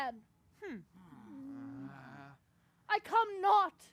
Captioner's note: grumbling